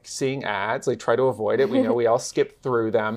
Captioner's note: laughs